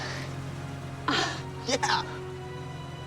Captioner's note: moan